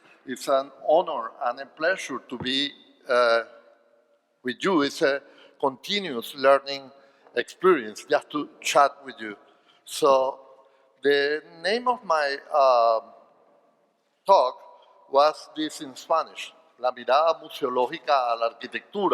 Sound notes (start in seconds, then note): 14.8 speaking spanish